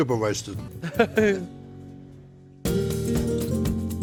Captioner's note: laughs; lively acoustic guitar music